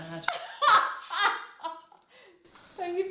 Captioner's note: both laughing